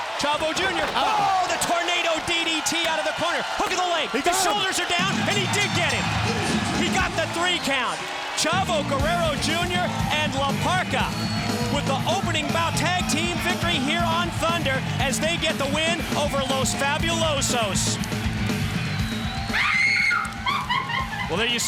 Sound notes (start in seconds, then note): 7.2 bell ringing; 9.3 crowd cheering